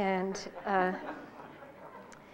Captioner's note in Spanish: Risas